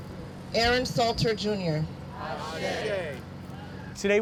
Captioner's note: crowd responds